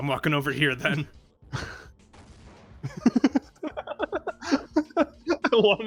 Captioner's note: explodes, then laughs